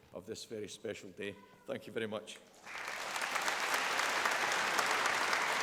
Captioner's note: applause